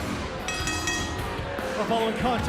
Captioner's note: bell ringing